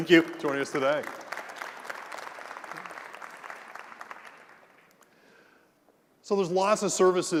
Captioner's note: applause